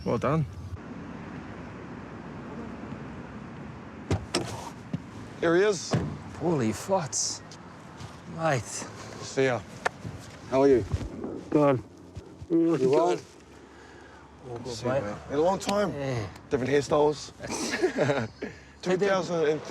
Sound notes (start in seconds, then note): 5.8 car door opens